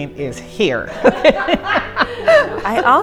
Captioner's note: laughing